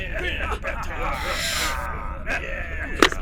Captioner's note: intake of breath; helmet unlocking, hiss